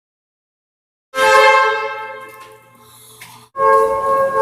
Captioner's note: air Horn